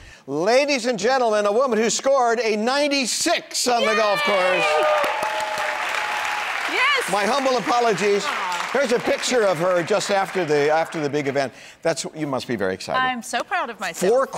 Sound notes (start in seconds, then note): 4.1 crowd clapping